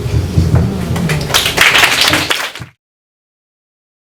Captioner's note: applause